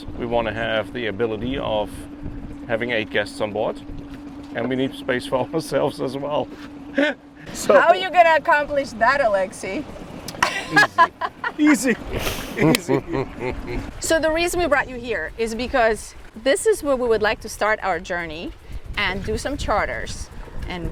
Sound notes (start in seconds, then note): 10.3 laughing; 10.4 laughs; 13.2 chuckles